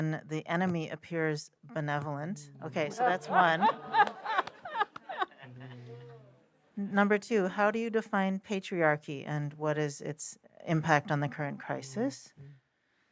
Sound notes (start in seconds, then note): 2.8 laughter